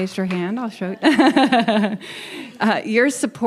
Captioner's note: chuckles